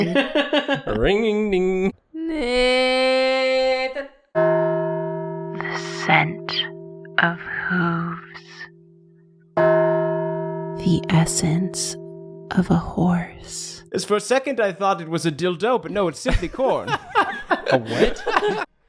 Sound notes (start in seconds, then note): 0.0 laughing; 4.4 resounding bell ding; 5.9 whispering; 9.5 resounding bell ding; 16.2 laughing